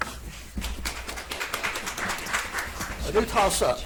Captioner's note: audience applauds